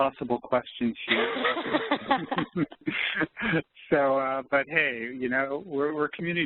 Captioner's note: laughing